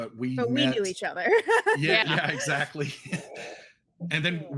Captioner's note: giggles